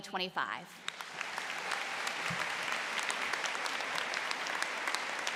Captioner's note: applause